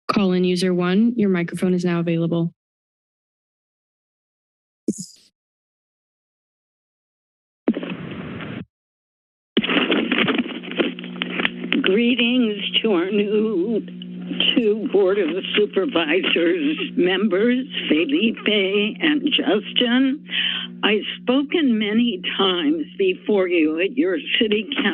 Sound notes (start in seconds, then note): 2.5 silence; 7.8 static noise; 8.9 silence; 9.7 static noise